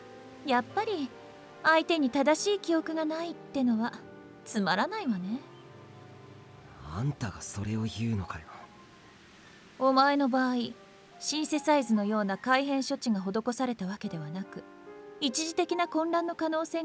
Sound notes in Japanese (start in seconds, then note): none